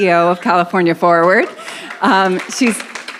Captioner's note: audience applauds